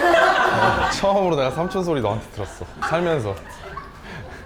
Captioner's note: hehehe